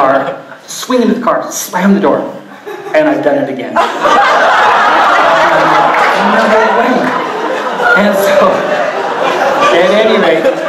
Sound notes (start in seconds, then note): 3.7 audience laughing very hard